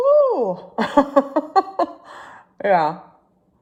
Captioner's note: laughing